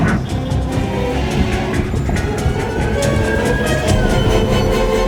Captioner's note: siren wailing